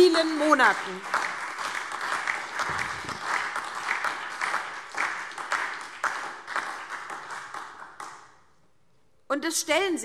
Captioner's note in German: Beifall SPD, Freie Demokraten und DIE LINKE